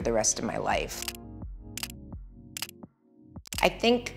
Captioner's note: camera snapping consecutively